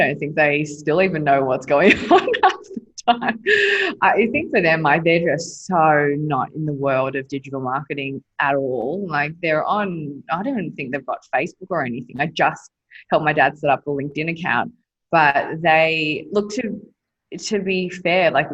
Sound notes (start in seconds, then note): 1.7 laughing